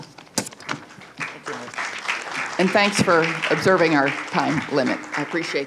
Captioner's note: applause